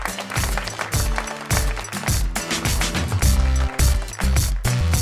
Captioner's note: applause